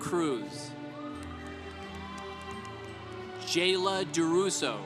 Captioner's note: congregation applauding